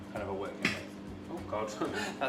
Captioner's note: butter popping